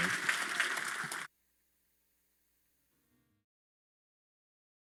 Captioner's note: audience claps